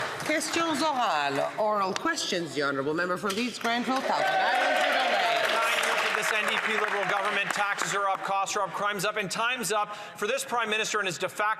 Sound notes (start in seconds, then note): 1.3 some Applause